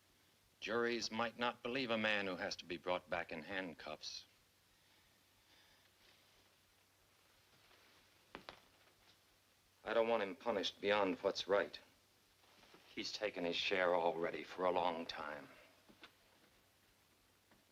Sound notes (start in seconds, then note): none